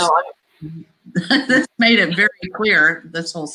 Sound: laughs

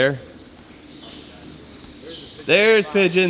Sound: birds chirping

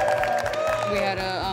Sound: cheering

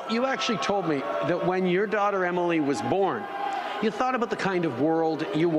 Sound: crowd chanting "boo"

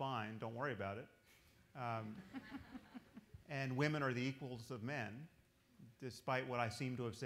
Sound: laughter

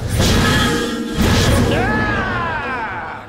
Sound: screaming

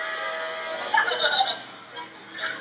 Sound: laughs

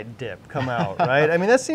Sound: laughs

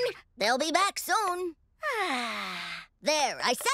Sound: sighs

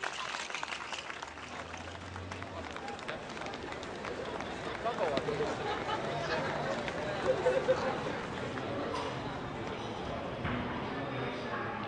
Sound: crowd noises

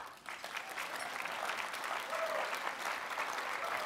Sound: applause

